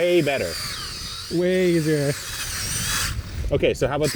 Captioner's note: auger whirring